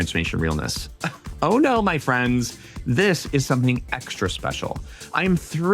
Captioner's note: scoffs